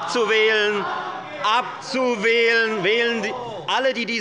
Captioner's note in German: Lebhafte Zurufe des BÜNDNISSES 90/DIE GRÜNEN